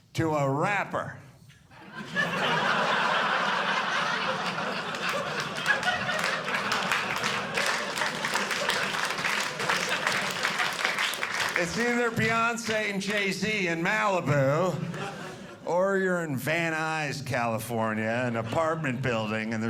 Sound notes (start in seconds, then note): 1.7 audience laughing; 7.5 audience clapping